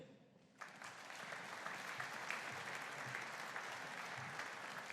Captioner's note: audience applauding